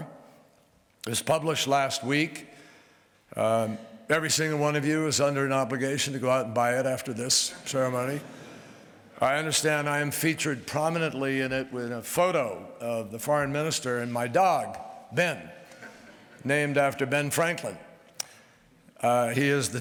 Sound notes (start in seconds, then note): 8.0 laughter